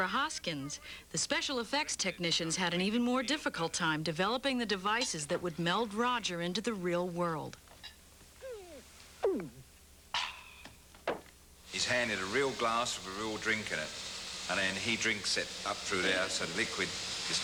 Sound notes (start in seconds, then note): 8.4 gulp